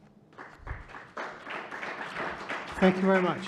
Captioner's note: audience applauding